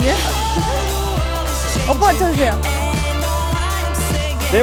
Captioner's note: slate hitting master